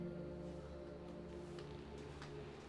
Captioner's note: none